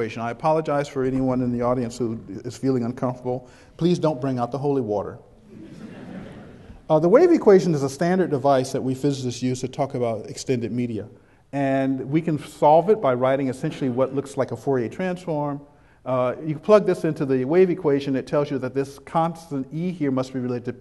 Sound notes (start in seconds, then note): 5.5 chuckles